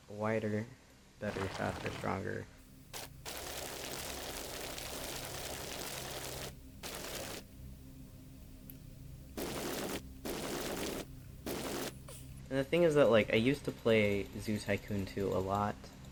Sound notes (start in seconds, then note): 3.3 sped up gravel sounds